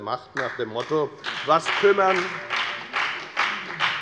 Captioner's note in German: Beifall bei der FDP und bei Abgeordneten der SPD - Widerspruch bei der CDU